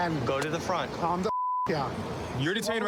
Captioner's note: beep